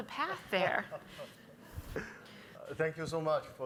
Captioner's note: laughs